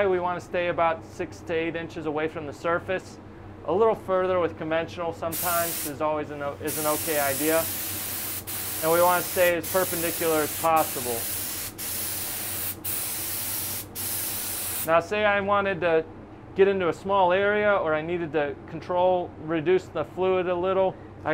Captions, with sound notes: We wanna stay about six to eight inches away from the surface, a little further with conventional sometimes, is always an okay idea. And we wanna stay as perpendicular as possible. (paint spraying) Now say I wanted to get into a small area, or I needed to control, reduce the fluid a little.